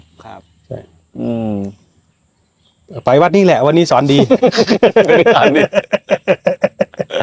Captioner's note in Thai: เสียงหัวเราะ